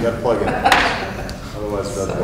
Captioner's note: laughter